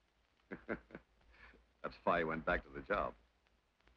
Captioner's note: chuckles